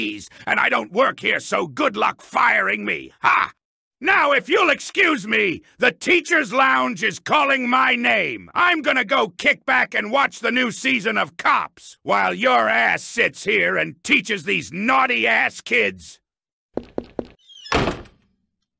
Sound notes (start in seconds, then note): 16.8 footsteps; 16.8 door slam